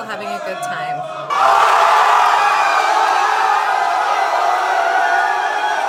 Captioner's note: crowd cheering, yelling